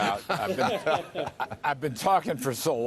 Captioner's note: laughter